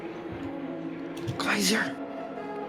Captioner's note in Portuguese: sussurra